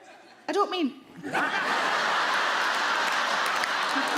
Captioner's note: audience laugh